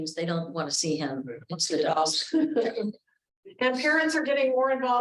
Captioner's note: chuckles